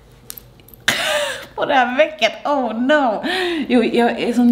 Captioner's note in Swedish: skrattar